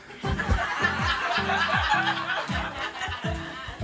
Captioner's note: laughing